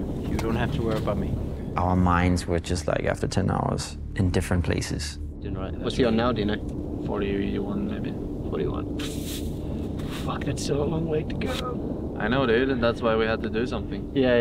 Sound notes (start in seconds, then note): 5.6 conversing in foreign language